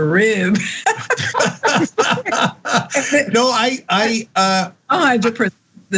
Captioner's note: laugh